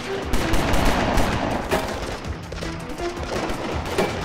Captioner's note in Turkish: Silah sesleri